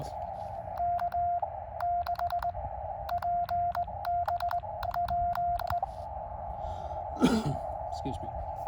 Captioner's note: cough